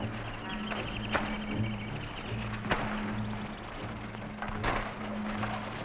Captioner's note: plants rustling; tense music